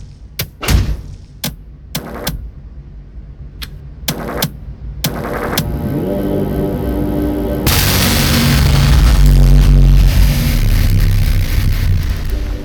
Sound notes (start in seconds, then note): 5.0 audio warning